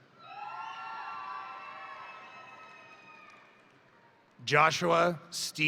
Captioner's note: crowd cheering; crowd applauding